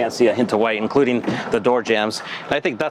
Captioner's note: door opening